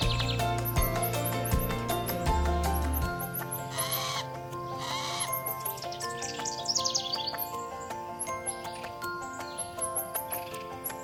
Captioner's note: birds chirping